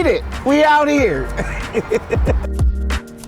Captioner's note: laughs; upbeat music continues